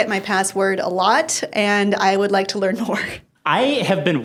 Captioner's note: laughs